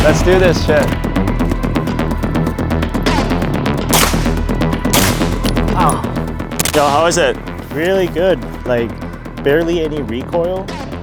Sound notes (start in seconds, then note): 0.0 upbeat music continues; 3.9 gun firing